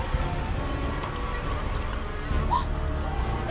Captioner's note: dripping; gasps